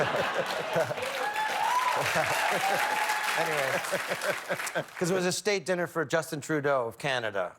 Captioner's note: laughter; cheers and applause